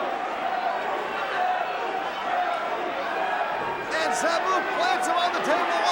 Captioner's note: crowd cheering